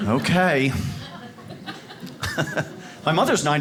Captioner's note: audience laughs